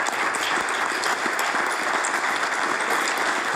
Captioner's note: applause